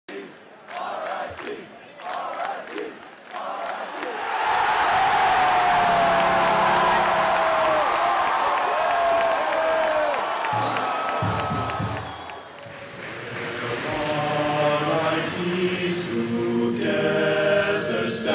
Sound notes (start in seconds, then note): 0.1 cheering; 5.6 cheers and horn sound